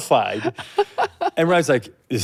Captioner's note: laughing